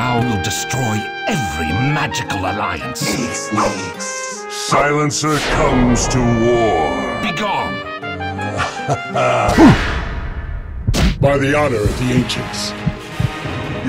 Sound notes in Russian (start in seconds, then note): 8.5 смех